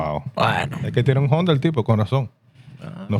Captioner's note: speaking Spanish